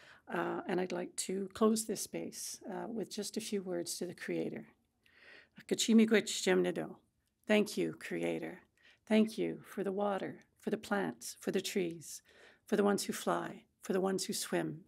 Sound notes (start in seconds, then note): 5.2 speaking Anishinaabemowin